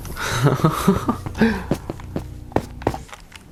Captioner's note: laughter